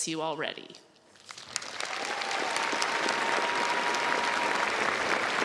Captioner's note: crowd applauds